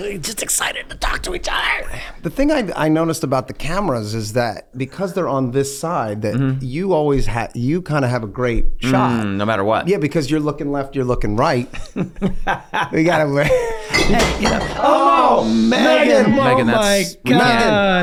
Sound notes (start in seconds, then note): 11.6 laughs; 11.6 all chuckling; 13.8 glass smashing; 14.5 all exclaiming